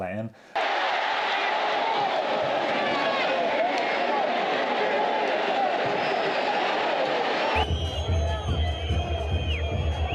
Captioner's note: crowd cheering; upbeat music